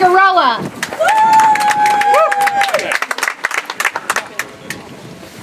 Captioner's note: audience applauds